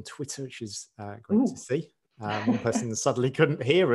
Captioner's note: laughs